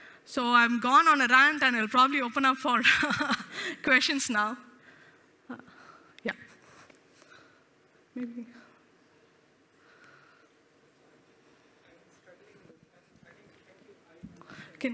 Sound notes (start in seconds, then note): 2.9 laughs